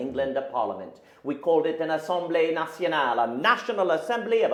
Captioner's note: speaking in a foreign language